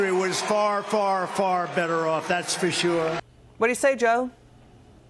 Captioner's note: cheers and applause